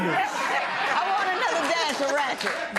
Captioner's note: laughter